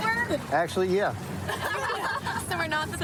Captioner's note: laughter